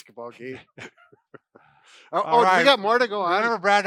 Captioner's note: laughing